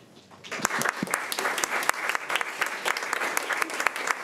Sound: crowd clapping

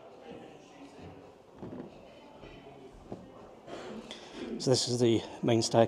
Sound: people chattering

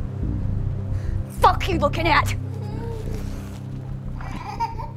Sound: baby crying

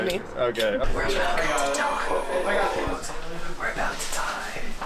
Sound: whispering

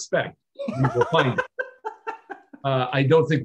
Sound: laughs

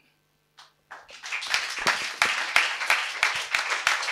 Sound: applause

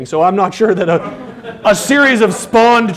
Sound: laughter

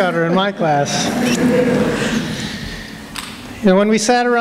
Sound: laughter

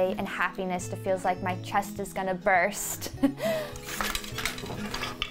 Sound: laughs; machine scrapes

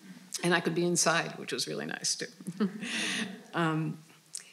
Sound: laughing

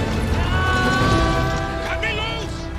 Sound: screaming

